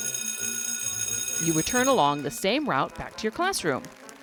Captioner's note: bell rings